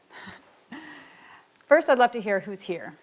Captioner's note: chuckles